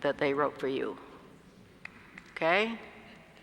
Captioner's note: applause